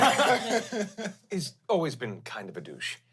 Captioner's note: everyone laughs